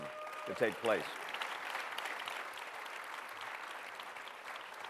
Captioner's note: applause